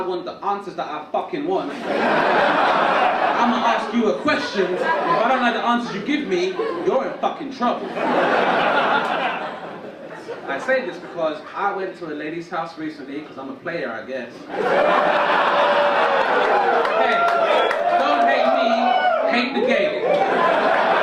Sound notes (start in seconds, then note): 1.6 audience laugh; 14.4 audience laugh and cheer